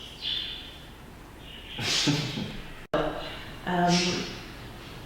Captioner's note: laugh